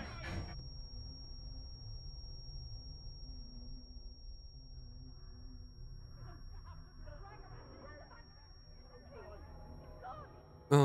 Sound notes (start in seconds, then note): 7.4 distorted shouting